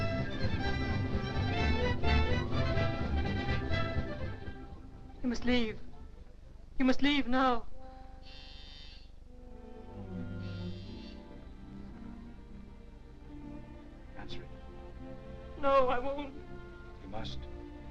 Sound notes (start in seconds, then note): 8.3 doorbell buzzing; 9.8 gentle somber music